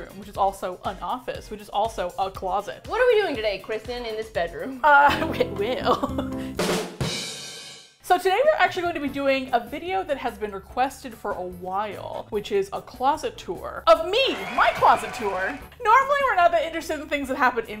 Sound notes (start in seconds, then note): 4.8 laughs; 6.5 badum, tss